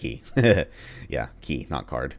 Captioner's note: chuckles